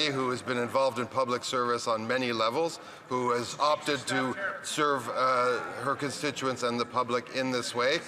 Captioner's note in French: voix de l'interprète